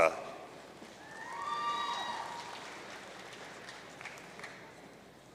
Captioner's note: audience cheering